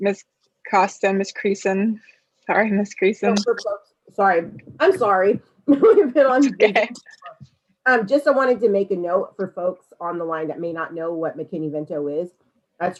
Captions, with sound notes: - Ms. Costa, Ms. Creason. Sorry, Ms. Creason. - Sorry, I'm sorry, (laughs) Just I wanted to make a note for folks on the line that may not know what McKinney-Vento is.